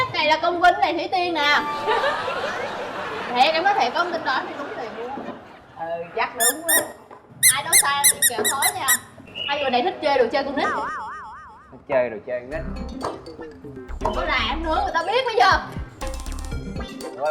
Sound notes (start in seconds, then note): 1.6 laughing; 6.9 sarcasm